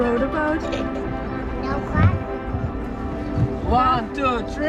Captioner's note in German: murmelt